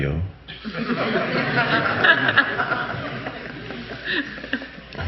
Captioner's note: audience laughing